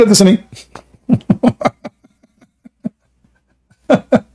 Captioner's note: Ketawa